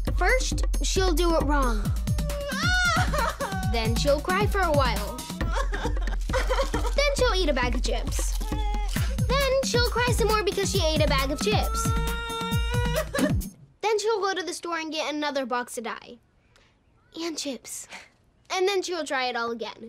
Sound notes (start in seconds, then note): 1.9 crying